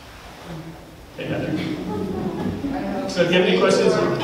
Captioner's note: audience chuckles